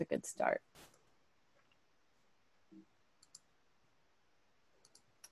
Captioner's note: mouse clicking